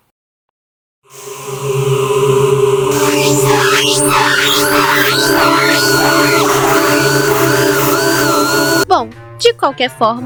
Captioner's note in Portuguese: Sons assustadores e bugados